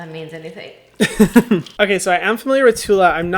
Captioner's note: laughs